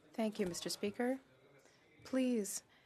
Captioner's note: speaking French